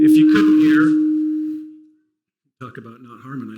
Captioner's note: microphone feedback